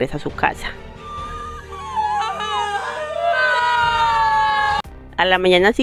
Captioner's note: crying in Spanish